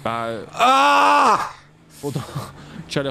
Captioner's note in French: Dona hurle